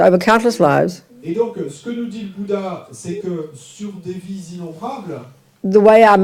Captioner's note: audience member speaks in French